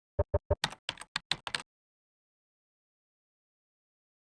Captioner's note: keyboard keys tapping